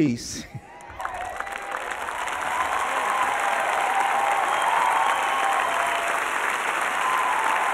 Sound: audience cheers and applause

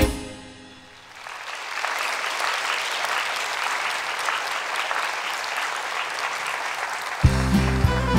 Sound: applause

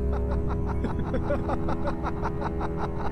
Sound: manic laughter

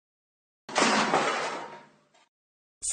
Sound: thud

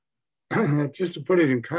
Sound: clears throat

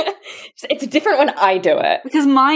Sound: laughs

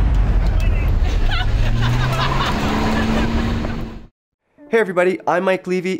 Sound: bikers chatting & laughing

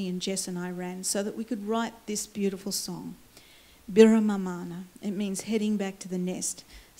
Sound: foreign words

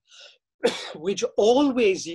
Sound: coughs

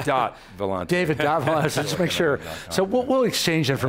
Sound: laughs

